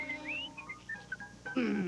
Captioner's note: whistle